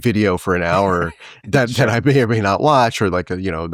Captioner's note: chuckling